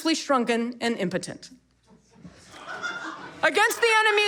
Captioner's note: audience laughter